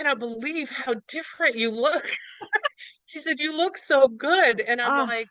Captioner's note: laughs